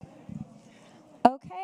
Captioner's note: people murmuring